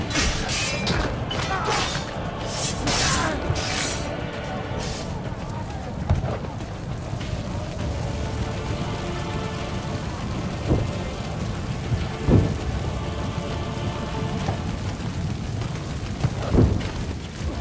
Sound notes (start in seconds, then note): 6.6 fire burning